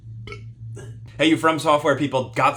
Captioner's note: burps